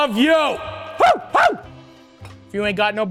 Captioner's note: Matty barks